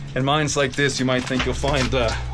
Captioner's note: none